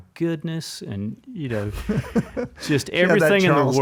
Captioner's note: laughs